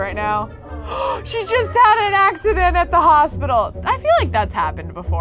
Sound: gasps

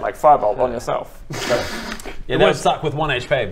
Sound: hisssssss

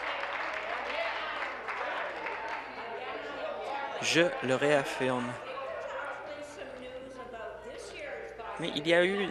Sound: applause

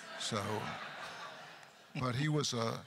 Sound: crowd laughter

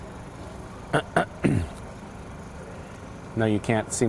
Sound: clears throat

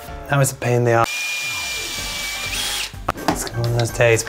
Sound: drilling noise

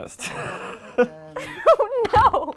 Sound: laughs

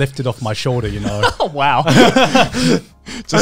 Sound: laughing

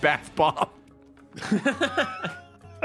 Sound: laughs

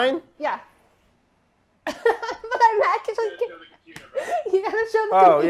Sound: laughing

